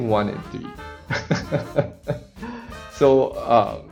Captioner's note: laugh